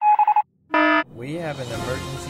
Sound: alarm; morse code

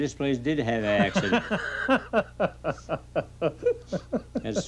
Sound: man laughing

